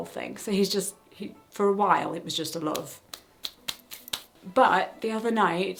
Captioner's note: smacking sounds